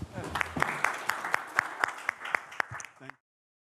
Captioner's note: audience claps